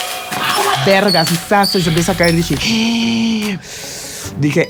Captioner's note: gasp